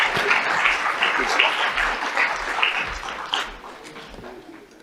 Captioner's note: audience applauds